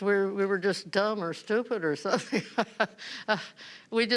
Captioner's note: chuckling